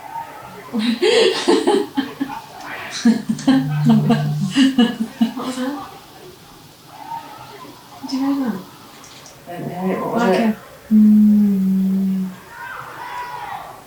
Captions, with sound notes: [Laughing] What was that? Did you hear that? I didn't hear it? What was it? Like a.... 'hmmmmmm'